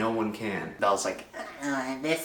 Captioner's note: snooty Belle voice